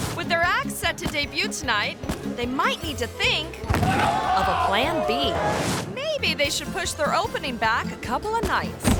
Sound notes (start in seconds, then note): 3.7 thuds; 8.8 thuds